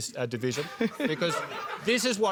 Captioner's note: laughter